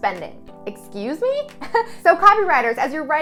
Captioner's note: chuckles